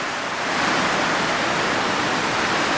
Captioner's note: noise of heavy rain